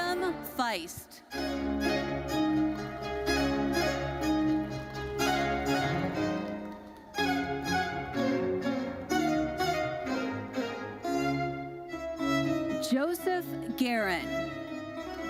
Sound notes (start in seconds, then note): 0.0 uplifting classical music fades; 1.6 bright lively music; 2.5 audience applauding; 8.3 bright lively music continues